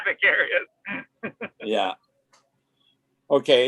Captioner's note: chuckling